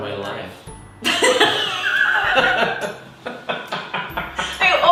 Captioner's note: both laughing